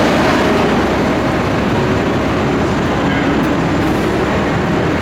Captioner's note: truck, traffic, and construction noise, indistinct conversations